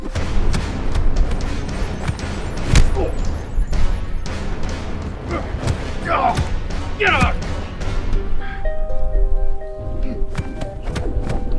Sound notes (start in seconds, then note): 0.2 blows striking; 2.6 dramatic music; 5.7 both groaning; 7.8 blows striking